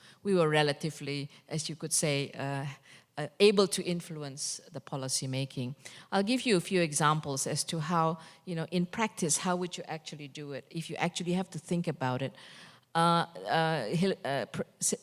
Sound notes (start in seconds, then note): none